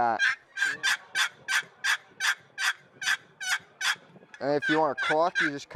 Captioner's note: turkey call chirping